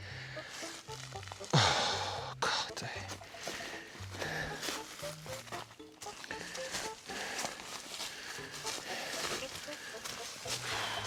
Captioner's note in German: seufzt